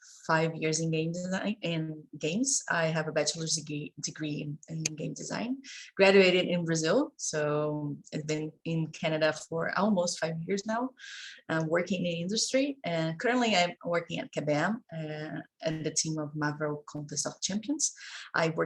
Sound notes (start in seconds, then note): none